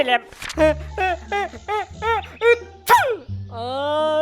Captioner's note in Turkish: Hapşırma sesi